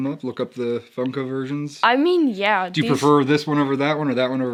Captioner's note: none